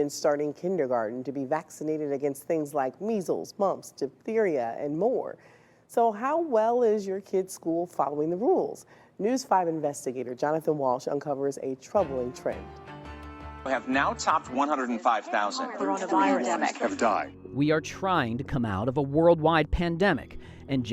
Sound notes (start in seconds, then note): 14.6 overlapping chatter